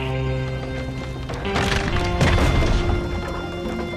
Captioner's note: sounds of crackling wood, giving in to the fire